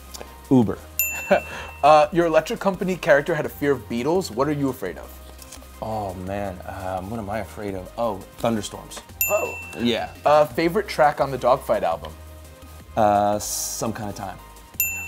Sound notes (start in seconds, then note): 1.0 bell chimes; 1.4 chuckles; 9.2 bell chimes; 14.8 bell chimes